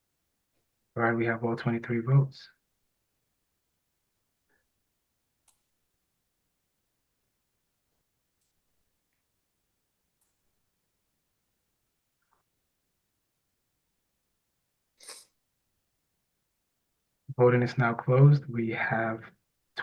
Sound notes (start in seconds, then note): 2.8 pause